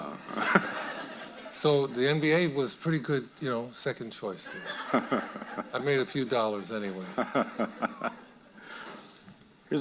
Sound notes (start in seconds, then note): 0.2 audience laughing; 4.5 audience laughing; 6.9 laughing